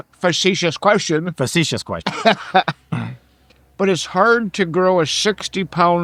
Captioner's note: laughing